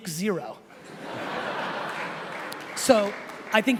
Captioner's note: laughing